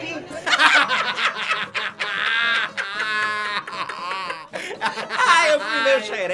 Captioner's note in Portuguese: gargalhadas